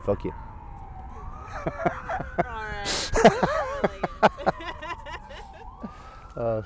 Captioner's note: laughter